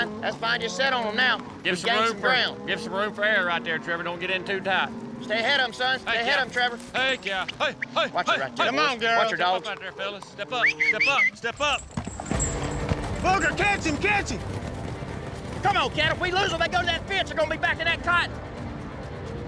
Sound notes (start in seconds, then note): 10.6 whistles